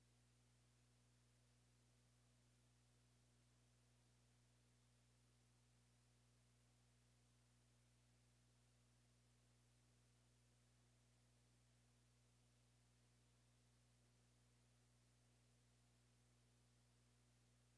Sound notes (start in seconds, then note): none